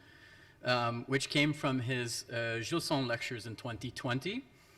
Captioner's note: speaks foreign language